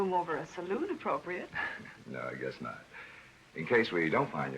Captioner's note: laughs